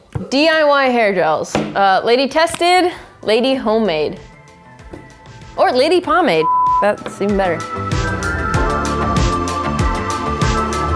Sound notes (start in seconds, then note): 6.4 beep; 7.8 lively music